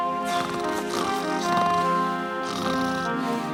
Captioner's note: snoring